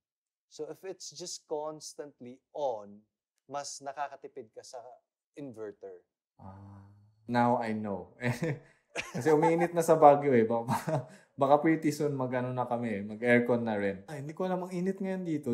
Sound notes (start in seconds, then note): 9.0 chuckles